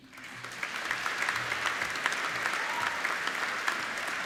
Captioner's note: applauding